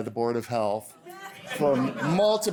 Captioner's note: laughter